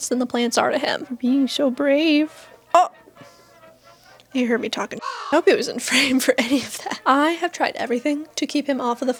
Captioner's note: caw